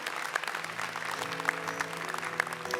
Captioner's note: applause